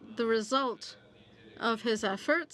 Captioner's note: speaking French